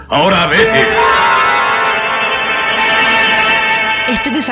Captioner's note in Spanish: Sonido dramático